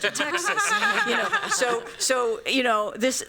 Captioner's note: laughter